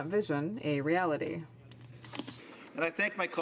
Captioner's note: speaking French